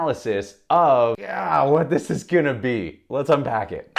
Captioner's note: groaning